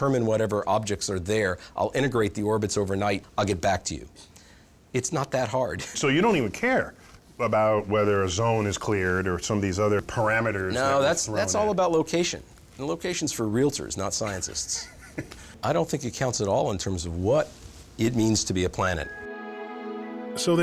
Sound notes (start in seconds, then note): 14.7 laughing